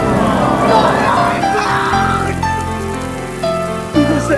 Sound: crying

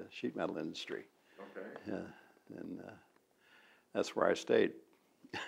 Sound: laughs

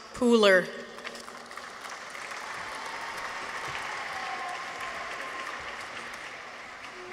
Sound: audience applauds; people cheer

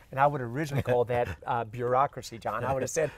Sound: both laugh

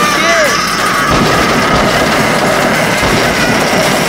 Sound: the carts crash and bash against various objects

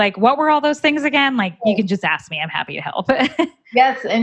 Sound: giggling

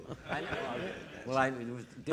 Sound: audience laughing

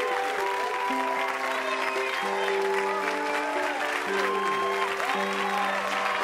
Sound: audience cheering and applauding

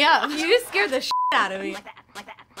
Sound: beep

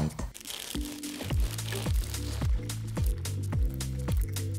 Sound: pastry crunching

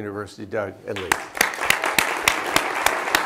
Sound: applause

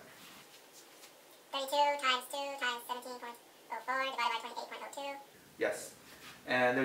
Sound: fast-forwarded voice

